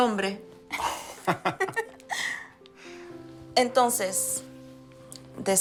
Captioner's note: ríen